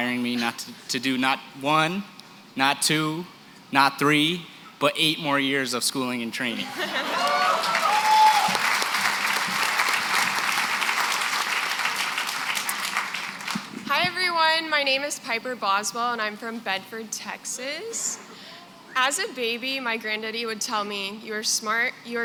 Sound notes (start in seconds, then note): 7.1 applause, cheering